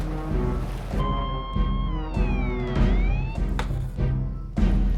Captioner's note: siren blaring